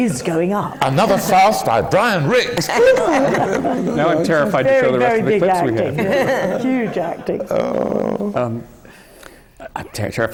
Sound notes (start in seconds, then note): 0.0 laughter; 5.7 laughter